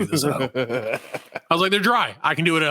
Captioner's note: laughing